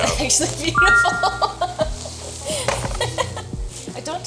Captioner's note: text chiming brightly; laughing